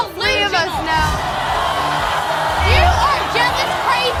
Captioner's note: audience yells